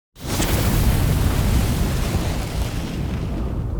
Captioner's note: fire burning